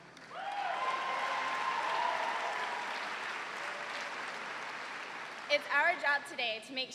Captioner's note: cheers and applause